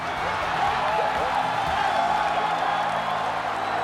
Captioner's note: crowd cheering